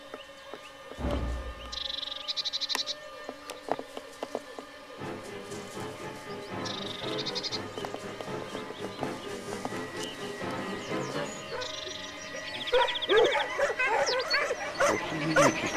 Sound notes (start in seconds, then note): 12.5 dogs barking